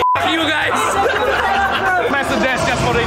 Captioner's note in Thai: เสียงหัวเราะ